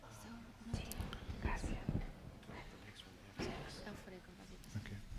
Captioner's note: whispering